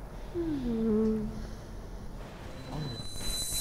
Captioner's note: sighs